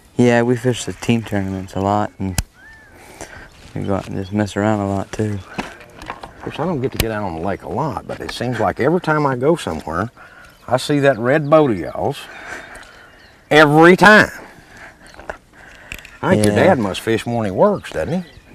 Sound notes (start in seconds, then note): none